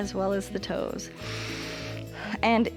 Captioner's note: inhales and exhales